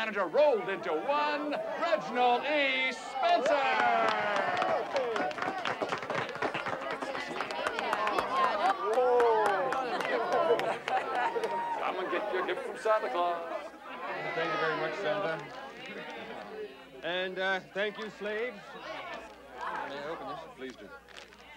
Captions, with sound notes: rolled into one, Reginald E. Spencer. (staff applaud) (background chatter) Come and get your gift from Santa Claus. - Thank you very much, Santa. And, uh, thank you, slaves. Can I open this? - Please do.